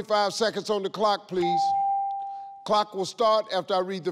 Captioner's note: clock dings